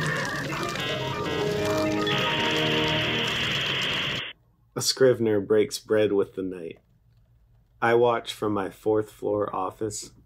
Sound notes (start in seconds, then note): 2.1 static